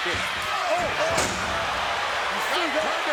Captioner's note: commentators exclaim